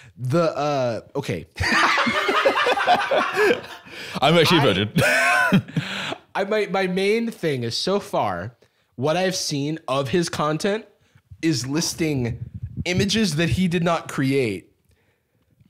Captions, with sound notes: The, uh—OK. (both laughing) - I'm actually a virgin. - I... My main thing is, so far... what I have seen of his content... is listing images that he did not create...